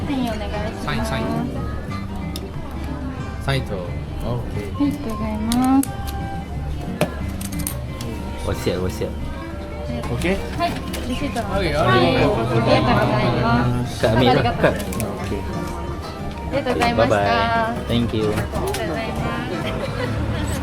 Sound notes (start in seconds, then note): 0.1 speaking Japanese